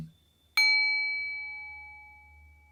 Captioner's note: bell rings